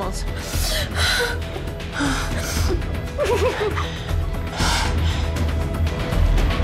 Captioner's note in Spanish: Sollozos